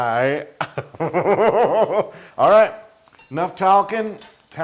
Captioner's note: laugh